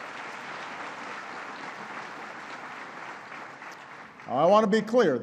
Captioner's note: applause